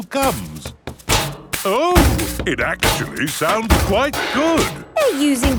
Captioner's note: rhythmic clanging